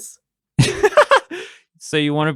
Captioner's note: laughter